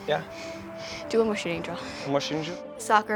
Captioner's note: foreign language